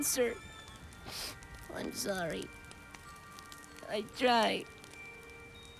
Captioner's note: sniffle